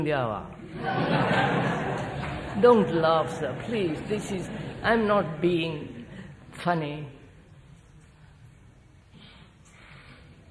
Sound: laughter

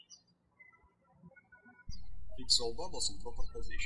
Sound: birds chirping

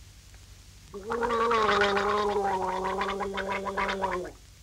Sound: gargling

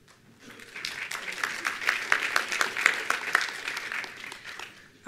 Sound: attendees applauding

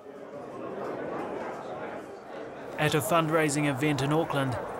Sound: crowd chatters

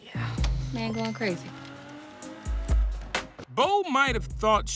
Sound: car engine revving on video game

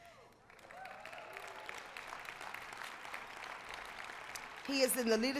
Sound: applause

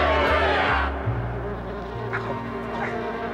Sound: buzzing

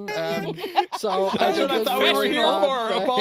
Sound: laughing

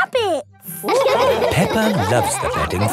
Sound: all laughing

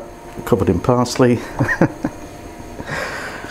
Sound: laughs

